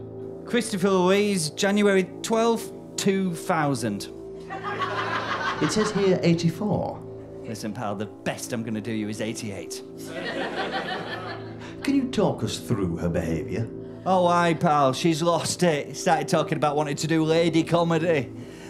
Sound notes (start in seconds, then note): 10.0 audience laughter